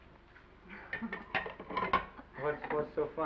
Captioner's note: Esther chuckles; chuckles